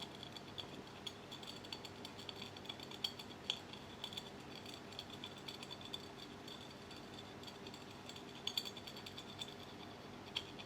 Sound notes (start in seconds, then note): 2.8 glass clinking